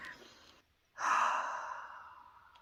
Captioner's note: upset sigh